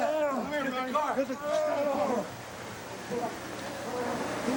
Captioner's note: groans